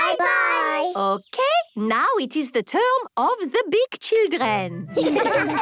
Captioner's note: laughter